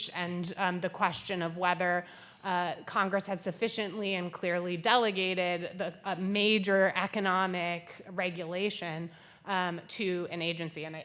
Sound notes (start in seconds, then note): none